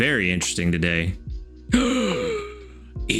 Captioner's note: gasps